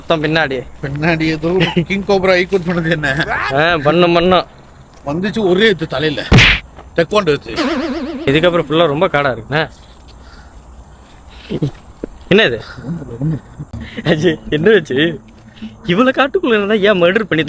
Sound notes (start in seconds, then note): 12.8 laughter